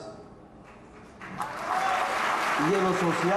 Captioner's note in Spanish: Aplausos